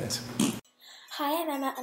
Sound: short raspberry

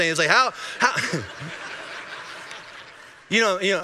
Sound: congregation laughing

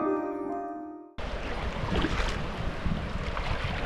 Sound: water splashing

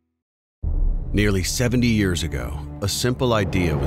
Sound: voiceover

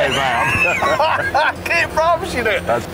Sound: laughing

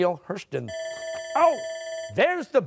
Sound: bell rings

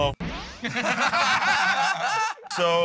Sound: laughter

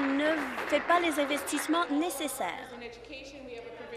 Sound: applause

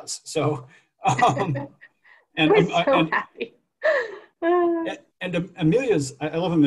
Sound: laughter

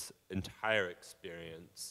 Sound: none

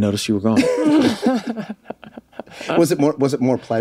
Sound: all laugh

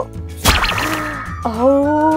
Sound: popping

